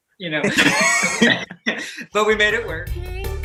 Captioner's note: laughing